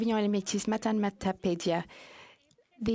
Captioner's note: speaking French